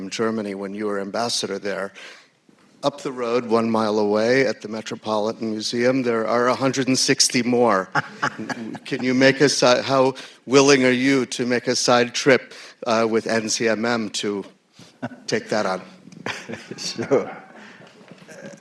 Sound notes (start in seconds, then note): 7.9 laughter; 17.1 laughter